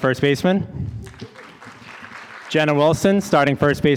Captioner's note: audience applauding